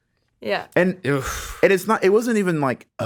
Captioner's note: Justin exhales sharply